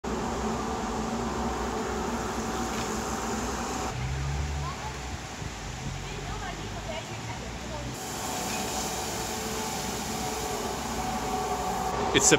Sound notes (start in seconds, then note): 1.9 rain pattering; 8.5 puddles sloshing; 8.5 street sweeper humming